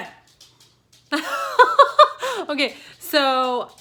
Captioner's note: laughs